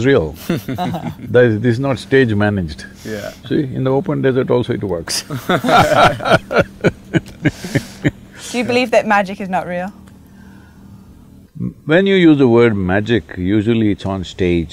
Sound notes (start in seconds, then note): 0.4 laughter; 5.2 laughter